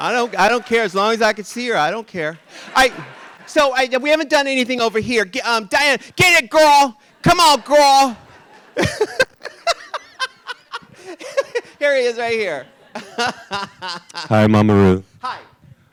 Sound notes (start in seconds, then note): 2.2 audience laughing; 8.2 RuPaul laughs